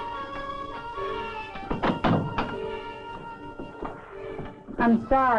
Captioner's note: door clicking